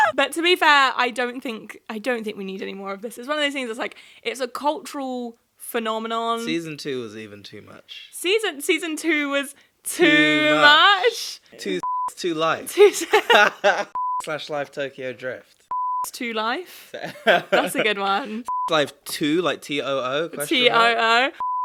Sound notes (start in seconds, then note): 11.8 beep; 12.8 both chuckling; 15.7 beep; 18.4 beep